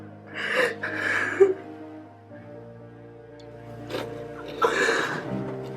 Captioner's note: Joshua cries